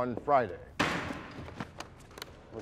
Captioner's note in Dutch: hamer knalt